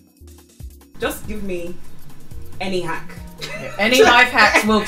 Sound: laughs

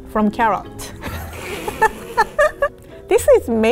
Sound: laughs

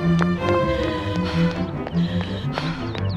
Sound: panting

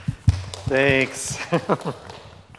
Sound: audience applauding

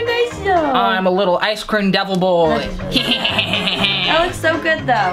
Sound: laughs maniacally

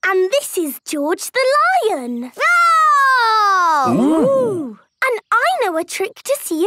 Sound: roaring

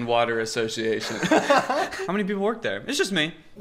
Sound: laughs out loud

